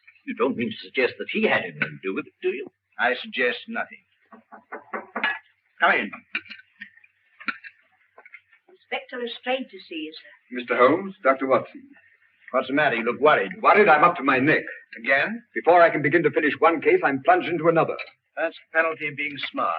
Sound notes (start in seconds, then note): 4.3 knocking on door